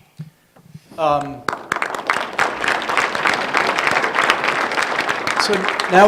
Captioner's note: applause